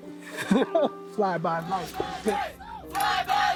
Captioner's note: laughs off screen